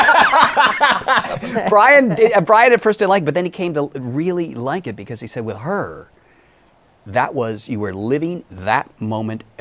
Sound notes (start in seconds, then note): 0.0 laughs